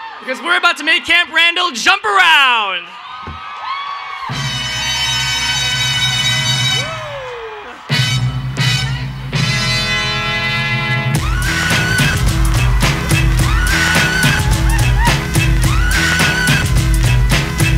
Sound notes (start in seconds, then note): 2.1 cheering and Applause